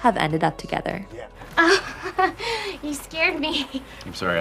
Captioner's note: laughing